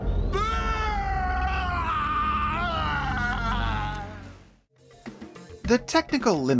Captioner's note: anguished howl